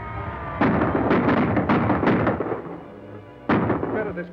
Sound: gunfire roars

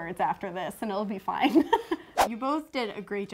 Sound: laughs

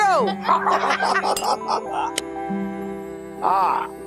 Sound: laughing

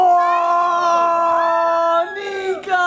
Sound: all cheering

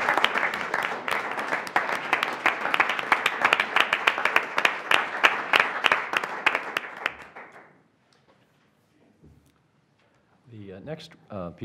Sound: applause

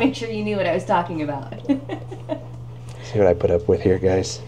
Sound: laughs

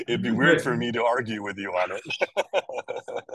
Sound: laughs

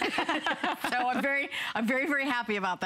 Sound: laughter

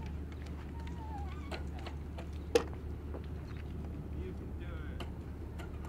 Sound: wind noise

